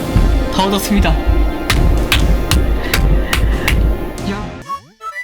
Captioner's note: clap clap clap